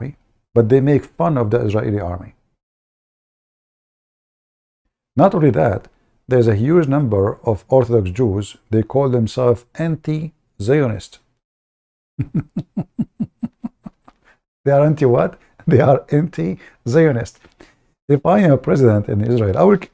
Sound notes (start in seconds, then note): 12.2 Ketawa